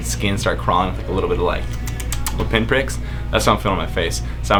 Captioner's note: clicks